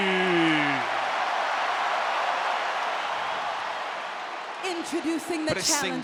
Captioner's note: applause